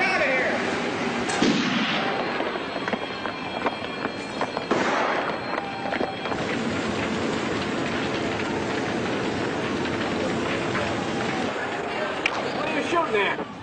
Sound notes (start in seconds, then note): 1.3 gunshot; 6.8 fire crackling